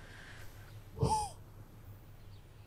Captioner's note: empty breath